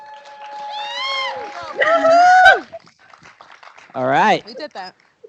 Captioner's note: cheering